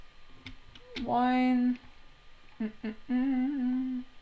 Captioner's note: humming